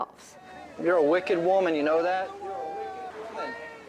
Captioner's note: voiceover